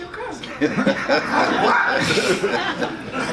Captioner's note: audience laughs